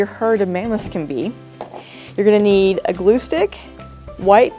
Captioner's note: thud